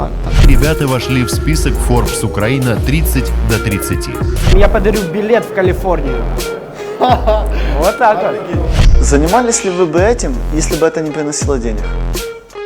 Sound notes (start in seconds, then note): 6.5 laughing